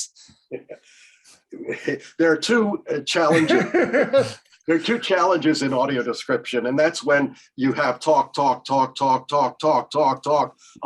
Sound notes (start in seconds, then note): 1.5 chuckles; 3.2 laughter